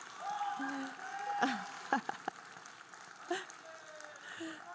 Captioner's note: audience cheering and applauding; chuckles; audience cheering